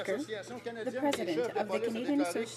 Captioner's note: speaking French